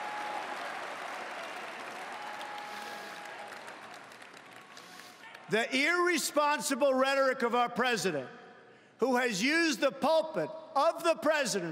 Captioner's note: cheering and Applause